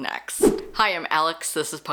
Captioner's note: whoosh